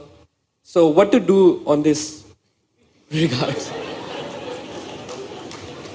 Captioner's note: laughter